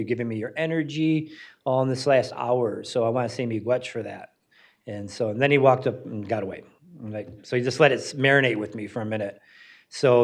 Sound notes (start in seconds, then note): 3.5 speaks in foreign language